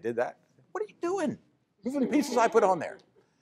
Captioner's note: laughter